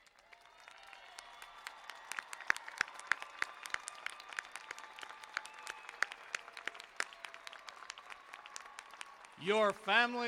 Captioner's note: cheers and applause